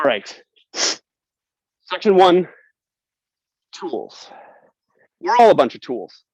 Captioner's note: snifles